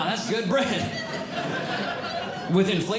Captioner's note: audience Laughing